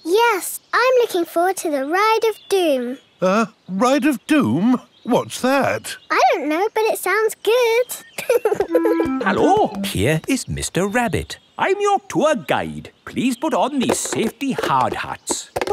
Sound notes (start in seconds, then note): 8.0 laughing